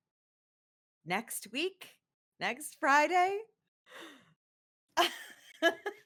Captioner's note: laughs